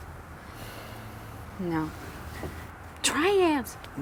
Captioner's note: sighs